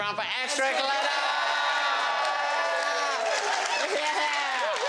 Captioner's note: crowd cheering